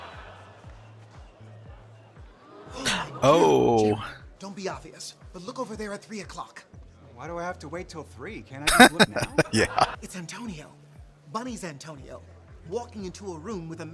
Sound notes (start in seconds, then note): 2.8 gasp; 8.6 laughing